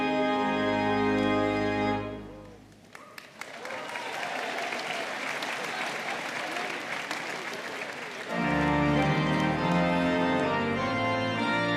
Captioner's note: applause